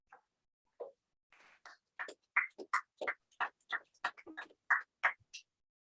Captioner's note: applause